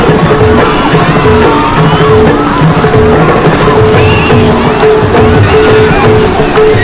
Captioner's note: voices in despair and uproar